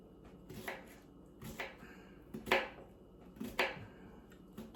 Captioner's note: knife slices